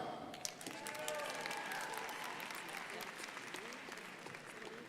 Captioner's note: crowd applauding